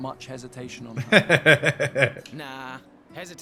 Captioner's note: laughing